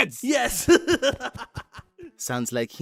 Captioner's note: laughs